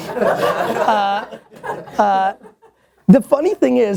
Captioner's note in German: Lachen